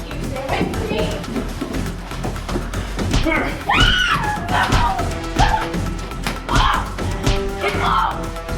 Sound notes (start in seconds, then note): 3.1 Shana yelling; 3.1 strikes thudding